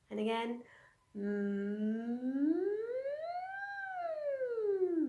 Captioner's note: humming